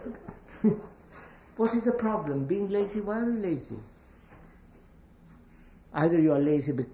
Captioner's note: laughs